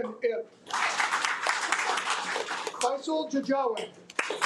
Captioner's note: audience applauding